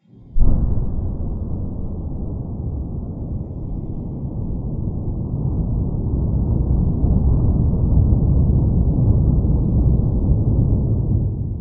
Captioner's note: loud sounds of rocket engines firing